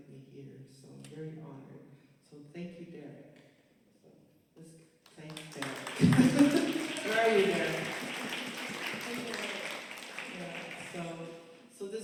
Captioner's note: applause